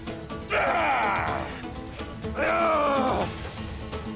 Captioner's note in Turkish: Bağırma sesi